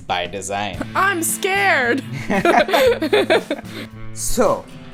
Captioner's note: laughter